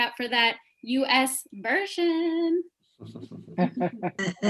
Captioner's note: laughter